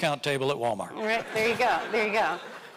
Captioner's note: audience laughing